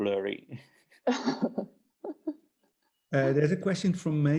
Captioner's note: laughing